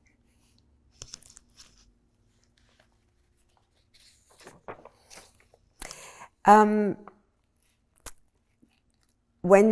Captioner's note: pauses 8 seconds